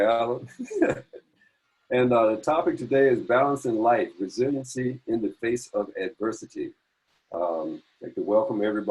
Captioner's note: laugh